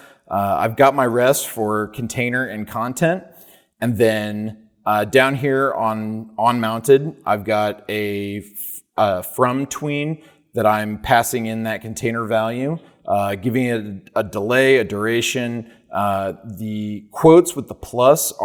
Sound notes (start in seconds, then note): none